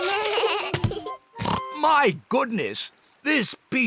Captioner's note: oinks